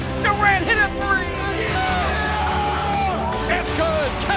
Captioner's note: yelling